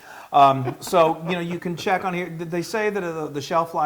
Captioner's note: laugh